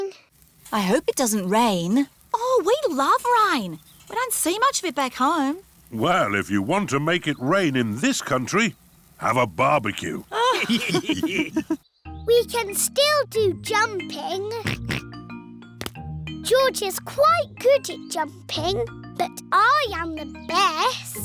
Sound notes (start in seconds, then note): 10.3 all laughing; 14.6 oinks